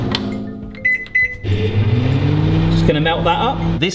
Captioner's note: Mike beeps and whirs